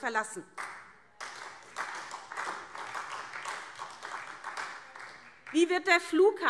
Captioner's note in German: Beifall SPD